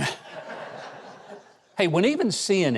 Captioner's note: audience laughs